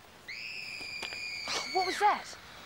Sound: shrieking

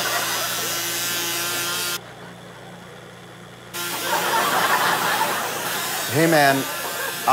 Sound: audience laughter, intermittent buzzing

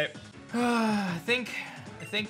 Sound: sighs

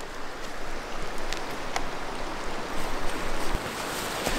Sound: water flowing

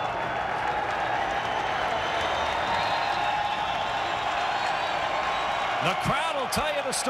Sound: crowd cheering

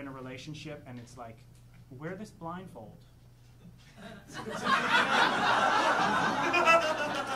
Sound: audience laughing

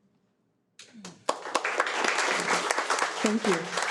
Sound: audience applauds

